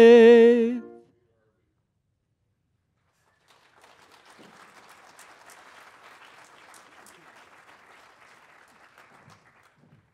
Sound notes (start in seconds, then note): 3.2 audience applauding